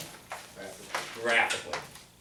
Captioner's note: voiceover